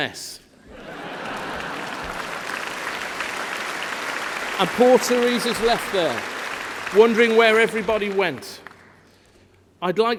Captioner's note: laughter